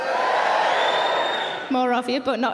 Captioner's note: audience cheering